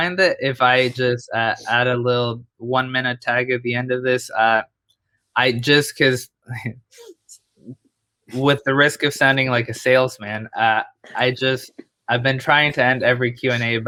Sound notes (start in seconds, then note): 6.5 chuckles